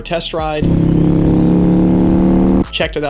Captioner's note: bike engine roaring